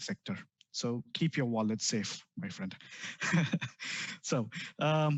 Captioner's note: laugh